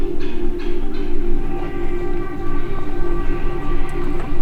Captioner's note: bird chirps; pensive music continues